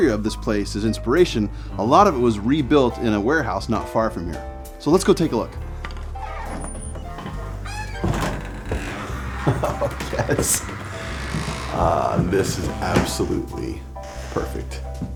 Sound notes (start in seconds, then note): 5.8 door hinges squeaking; 8.0 laughing